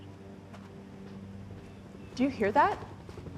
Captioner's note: helicopter blades thrumming